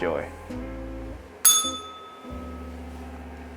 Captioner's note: bell rings